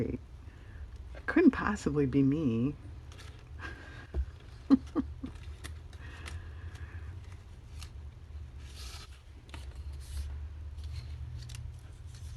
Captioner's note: laughs